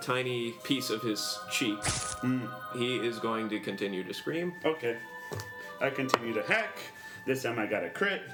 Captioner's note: rolls dice